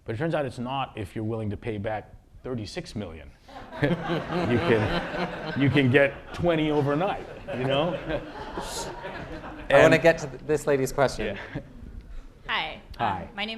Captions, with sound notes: But it turns out it's not, if you're willing to pay back $36 million. [LAUGHTER] You can get 20 overnight. You know? I want to get to this lady's question. Yeah. Hi. Hi.